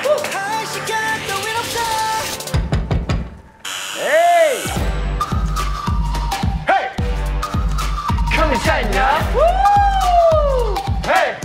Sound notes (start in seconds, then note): 3.6 squeak~